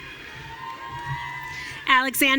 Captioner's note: audience cheering